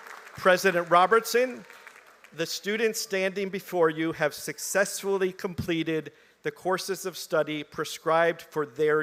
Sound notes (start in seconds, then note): 0.0 applause